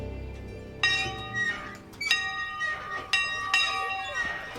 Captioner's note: school bell ringing